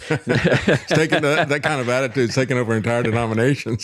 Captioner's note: both Laughing